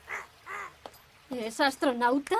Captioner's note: quacking